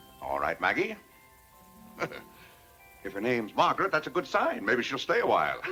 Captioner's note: chuckles